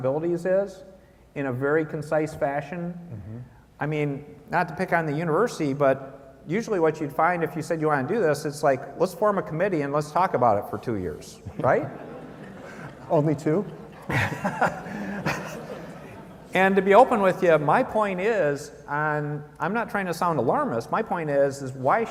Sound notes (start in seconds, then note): 15.7 laughter